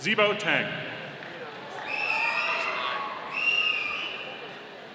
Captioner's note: audience cheering